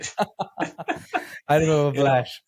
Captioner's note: both laughing